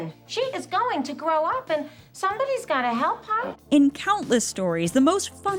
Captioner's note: none